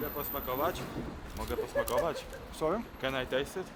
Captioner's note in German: spricht Polnisch